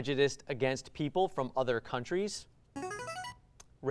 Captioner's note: ring-in sound